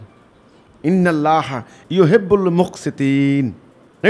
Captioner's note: Arabic